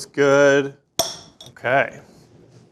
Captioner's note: chocolate snaps